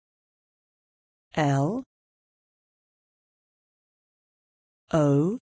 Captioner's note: simPODD voice